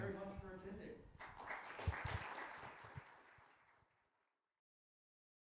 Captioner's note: audience applauding